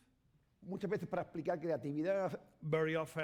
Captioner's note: speaking spanish